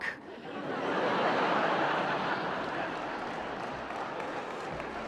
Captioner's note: laughter; applause